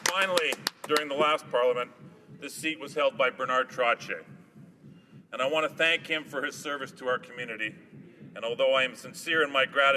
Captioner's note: applause